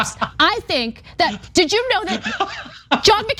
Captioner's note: laugh